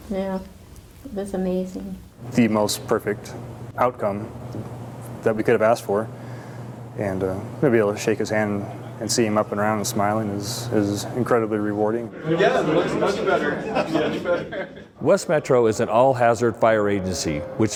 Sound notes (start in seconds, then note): 14.2 laughter